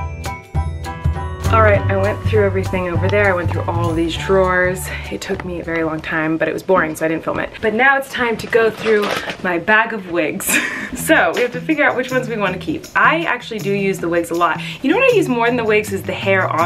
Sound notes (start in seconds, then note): 8.1 bag rustling; 10.5 laughing